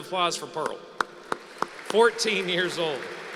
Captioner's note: applause